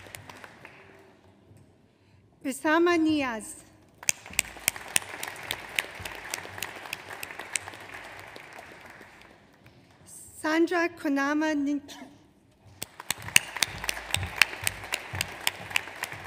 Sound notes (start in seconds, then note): 4.0 audience applauds; 12.8 audience applauds